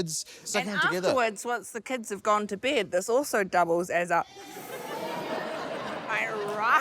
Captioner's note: inhales